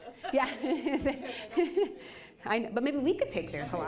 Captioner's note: laughing